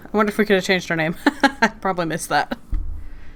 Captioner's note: laughs